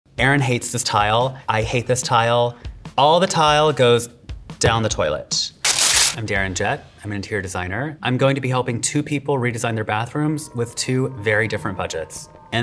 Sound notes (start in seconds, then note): 5.6 paper tearing